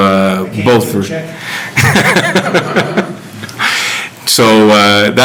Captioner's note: laughing